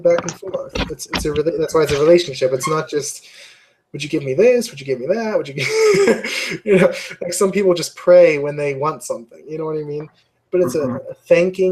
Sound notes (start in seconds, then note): 7.3 laugh